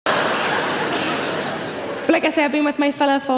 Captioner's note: audience laughs